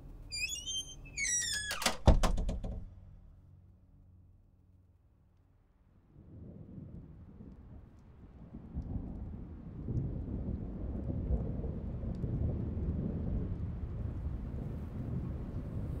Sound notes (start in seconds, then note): 7.1 rain drizzle